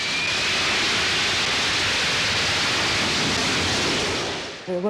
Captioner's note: jet engine roaring